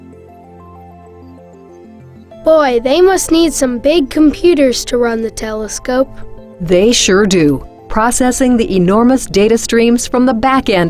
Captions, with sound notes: - [Voiceover] Boy, they must need some big computers to run the telescope. - [Voiceover] They sure do. Processing the enormous data streams from the Back End